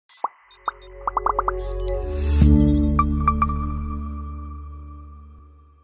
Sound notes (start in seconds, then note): 0.4 synthetic beeping; 2.4 atmospheric chiming